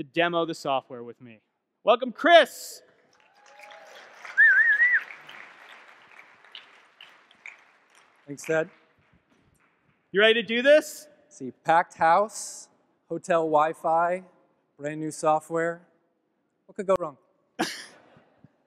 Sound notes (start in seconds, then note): 3.0 audience clapping; 4.3 whistling